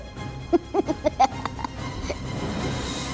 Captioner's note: laughs